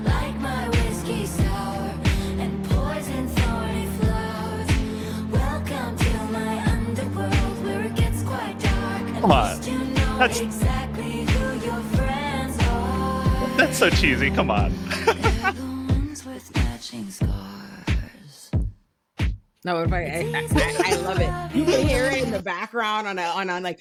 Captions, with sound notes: Like my whiskey sour and poison soy flour Welcome to my underworld where it gets quite dark Come on. And least you know exactly who your friends are That's so cheesy, come on. (both laughing) If the ones with matching scars No, everybody, I love it. Hearing the background on,